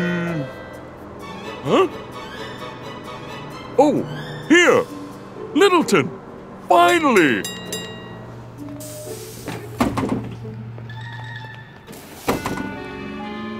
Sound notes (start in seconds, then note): 6.6 rings bell; 10.7 quizzical music